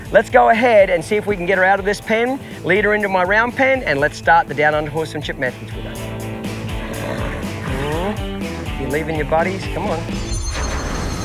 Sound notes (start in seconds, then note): 7.5 horse neighing; 10.1 shimmering